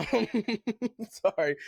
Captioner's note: laughing